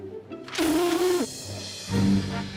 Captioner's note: blows raspberry